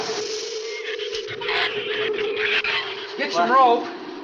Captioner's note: shrews chatter